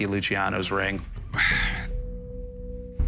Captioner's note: sighs